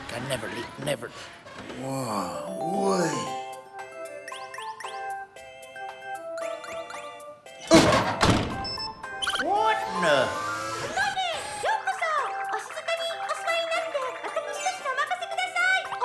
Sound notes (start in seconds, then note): 3.4 whimsical music; 11.2 speaking foreign language